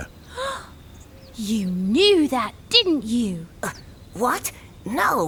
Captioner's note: gasp